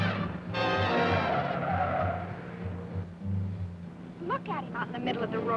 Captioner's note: tires screeching